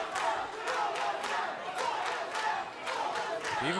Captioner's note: fans chanting